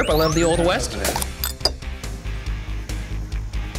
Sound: cracks

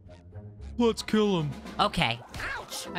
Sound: Patrick Voice; SpongeBob Voice

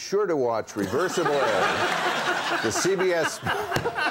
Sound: audience laughs; Conan laughs; Tom laughs

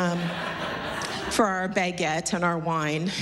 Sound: laughter

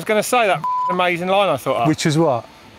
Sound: beep

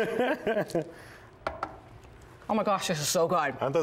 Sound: laughter

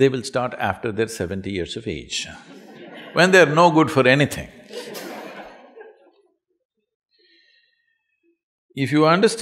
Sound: laughter

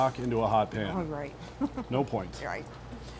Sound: laughter

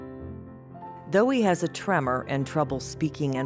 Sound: voiceover

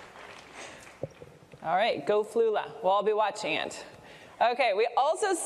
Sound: applause

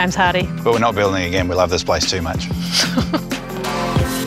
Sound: laughs

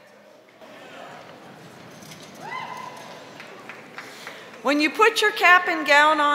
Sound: chairs scraping on floor

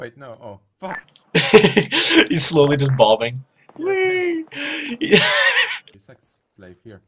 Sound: chuckle; more chuckles

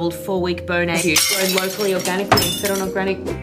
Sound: glass smashing

